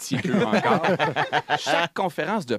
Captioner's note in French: rires